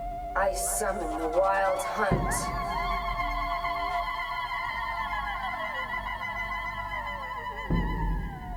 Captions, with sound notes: I summon the Wild Hunt. (tribal screeching) (battle drums)